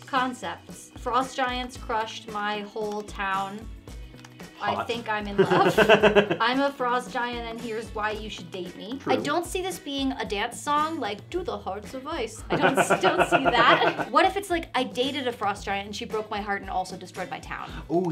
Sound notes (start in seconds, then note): 5.2 laughing; 12.5 laughing